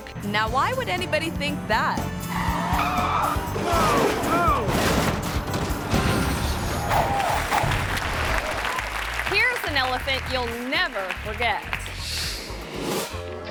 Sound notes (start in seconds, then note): 2.2 tire squealing; 3.0 monocycle crashing; 6.8 audience applauding